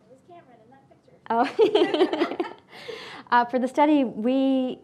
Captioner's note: laughing